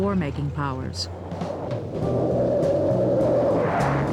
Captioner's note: jet engines roaring